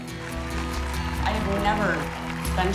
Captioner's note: clapping and cheering